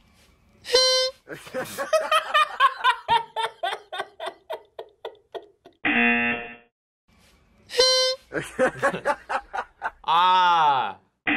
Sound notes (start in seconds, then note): 0.7 horn honks; 1.2 laughs; 5.9 buzzer rings; 7.7 horn honks; 8.2 laughs